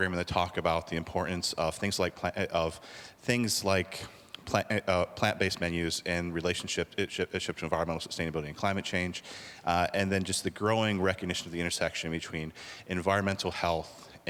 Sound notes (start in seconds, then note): none